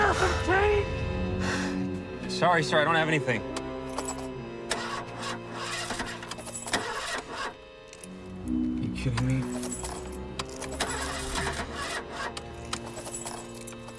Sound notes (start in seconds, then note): 4.5 car engine grinds; 10.6 car engine grinds